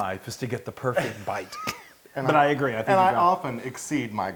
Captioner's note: laugh